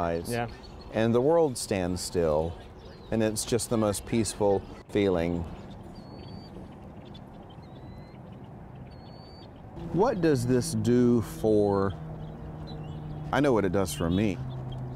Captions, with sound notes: >> YEAH. >> AND THE WORLD STANDS STILL, AND IT'S JUST THE PEACEFUL FEELING. >> [BIRDS CHIRPING] >> WHAT DOES THIS FOR, I KNOW WHAT IT DOES FOR ME,